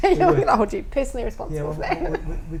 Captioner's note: laughs